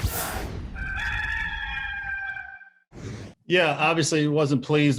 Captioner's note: rooster crowing